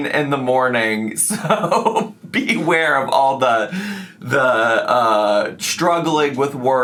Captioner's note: laughing